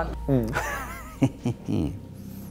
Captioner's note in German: Freches Kichern